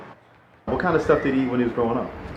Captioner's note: voiceover